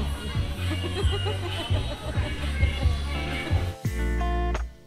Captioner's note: laugh